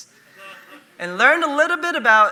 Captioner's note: audience laughing